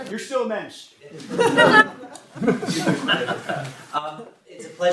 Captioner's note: audience laughing